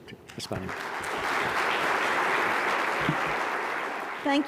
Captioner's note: applause